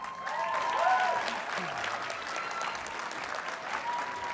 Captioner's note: audience cheers and applauds